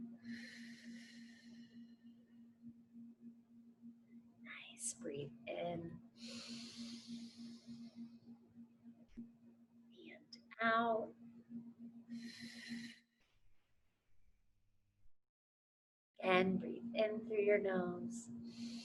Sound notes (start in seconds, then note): 0.3 exhales heavily; 6.2 inhales heavily; 12.3 exhales heavily